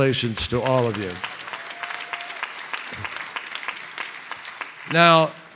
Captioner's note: applause